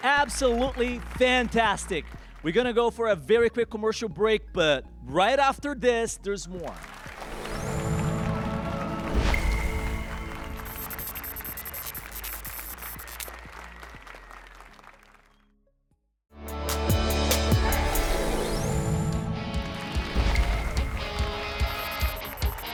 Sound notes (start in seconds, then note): 6.5 applause and cheers